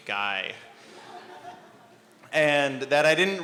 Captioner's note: laughter